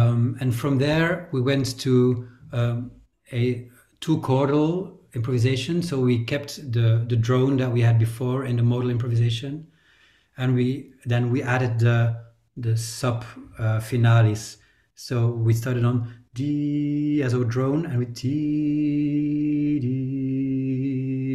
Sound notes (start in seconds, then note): 14.4 hums; 16.6 hums a tone lower